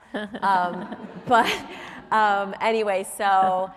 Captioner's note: audience laughs